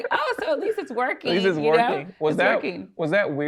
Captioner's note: laughs